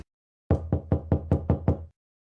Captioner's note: knocking on door